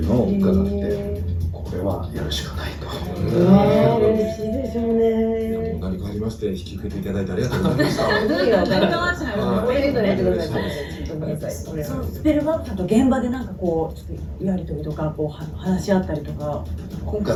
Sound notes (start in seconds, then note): 7.5 laughs